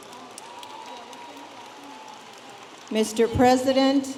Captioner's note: audience applauding